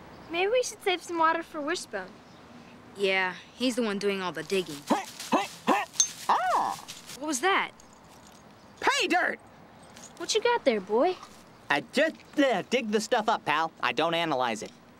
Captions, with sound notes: MAYBE WE SHOULD SAVE SOME WATER FOR WISHBONE. YEAH, HE'S THE ONE DOING ALL THE DIGGING. ( Wishbone Grunting ) ( Metal Clinks ) AH! WHAT WAS THAT? PAYDIRT. WHATCHA GOT THERE, BOY? I JUST--BLA--DIG THE STUFF UP, PAL, I DON'T ANALYZE IT.